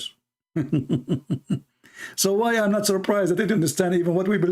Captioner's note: Ketawa